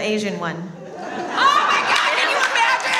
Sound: audience laughs

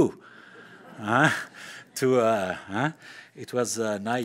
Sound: laughter

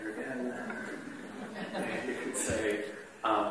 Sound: laughter

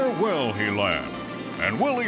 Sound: <i> yelling</i>

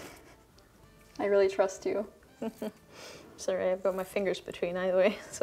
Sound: chuckling

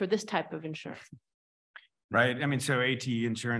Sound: chuckles

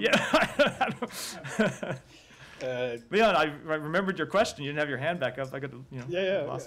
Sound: laughter

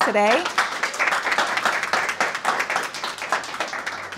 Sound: audience applauds

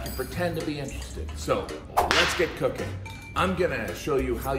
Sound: whip cracking

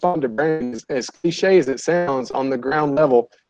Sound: audio warping

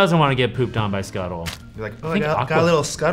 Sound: poop squelches

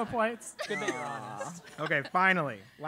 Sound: laugh

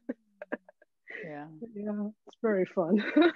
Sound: laughing

